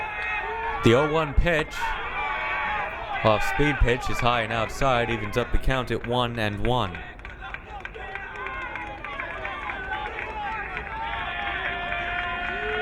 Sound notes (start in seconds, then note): 7.9 crowd cheering